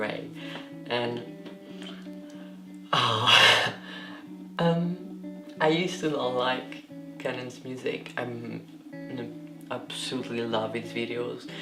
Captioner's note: sighs